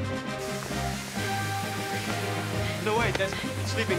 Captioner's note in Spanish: silbido